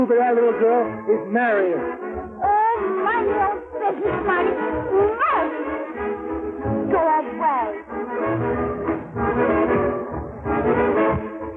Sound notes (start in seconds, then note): 4.4 groans